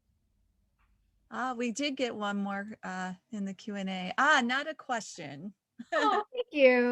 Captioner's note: laughing